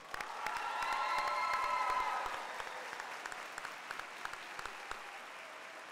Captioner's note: crowd cheering and applauding